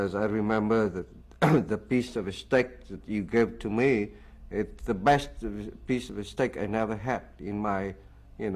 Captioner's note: khụ